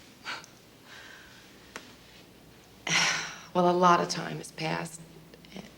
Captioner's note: sighs